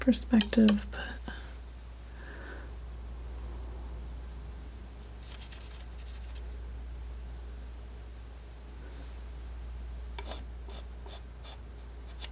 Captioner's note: scratching